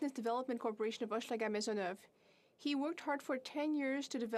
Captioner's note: speaking French